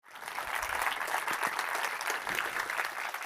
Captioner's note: applause